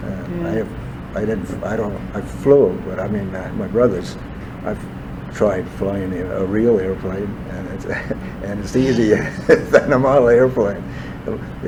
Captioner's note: laughs